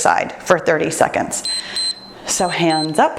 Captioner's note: timer beeps